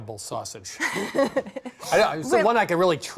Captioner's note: laughs